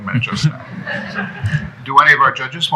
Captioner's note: laughter